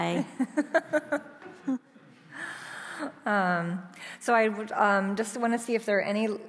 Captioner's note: laughs